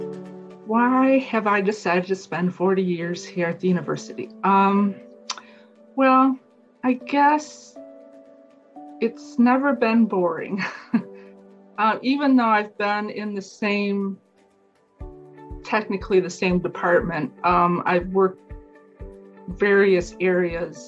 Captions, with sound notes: - Why have I decided to spend 40 years here at the university? Well, I guess it's never been boring (chuckles). Even though I've done in the same... Technically the same department, I've worked various areas.